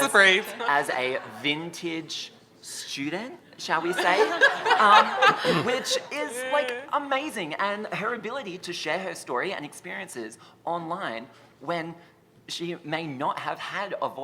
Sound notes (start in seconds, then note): 3.8 laughter